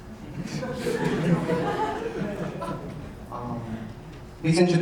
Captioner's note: audience laughing